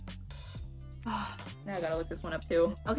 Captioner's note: sigh